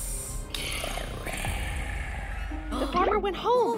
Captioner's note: hissing; Gowrow growling